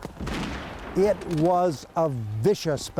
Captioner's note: cannon blasting